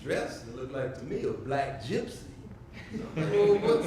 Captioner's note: audience laughs